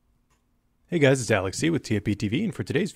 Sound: voiceover

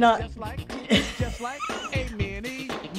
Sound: laughs

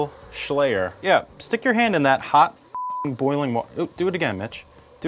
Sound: beeps

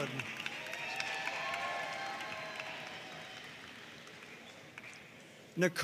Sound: audience cheering and applauding

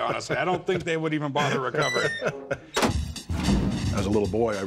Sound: laughs

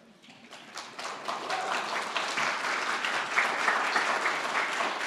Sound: audience applauding

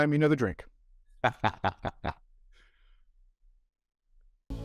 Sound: chuckles

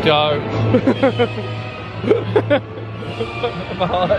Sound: laughs

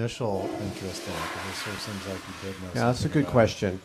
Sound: toilet flushes

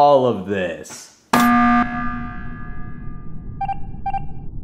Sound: buzzer ringing; Red beeping

